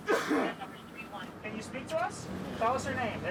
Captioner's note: coughs